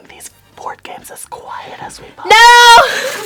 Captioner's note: whispers; screams